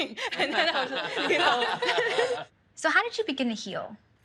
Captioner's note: laughing